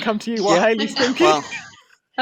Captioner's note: laughter